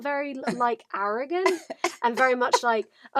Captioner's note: laughs